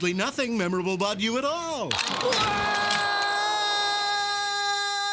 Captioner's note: screaming